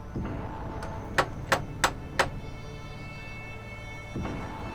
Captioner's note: door knocker knocking